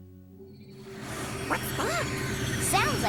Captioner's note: whooshing